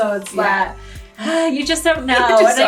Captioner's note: gasps; laughs